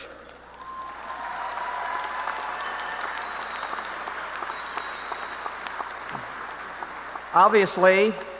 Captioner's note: applause